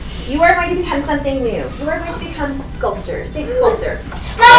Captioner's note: all shouting